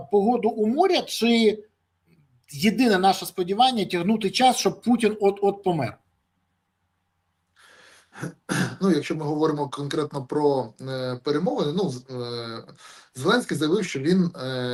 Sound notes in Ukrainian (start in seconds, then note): 8.2 прочищення горла